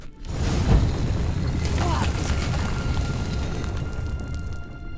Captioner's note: sound of scraping stone